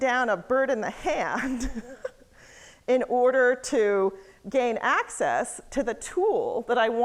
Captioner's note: laughs